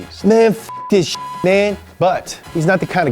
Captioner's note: beeps